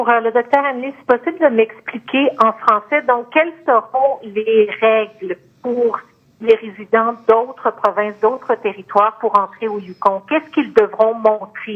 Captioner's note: speaking French